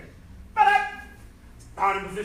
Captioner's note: enthusiastic shouting